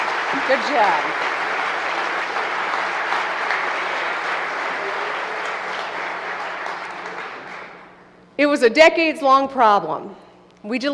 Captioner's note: applause